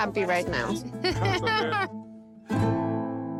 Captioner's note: Pati laughs